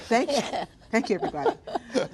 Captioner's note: laughter